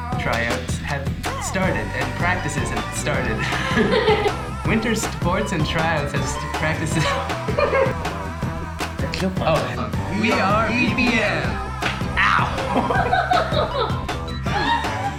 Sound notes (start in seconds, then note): 3.2 laughs; 8.2 laughs